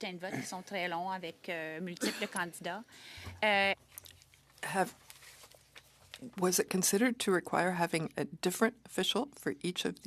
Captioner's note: speaking French